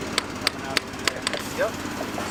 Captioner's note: hammer tapping